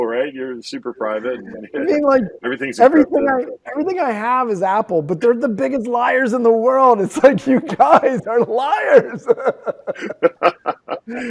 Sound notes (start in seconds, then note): 7.2 laughter